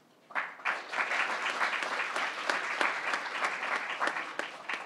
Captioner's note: crowd applauding